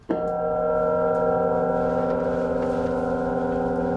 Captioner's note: gong ringing